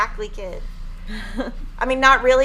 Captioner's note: laughing